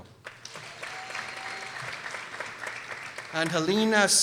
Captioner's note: people applauding